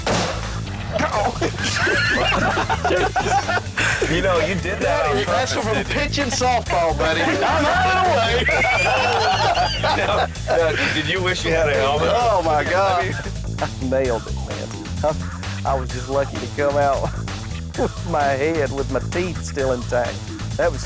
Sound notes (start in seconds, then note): 1.2 lalaugughthterer; 8.9 lalaugughthterer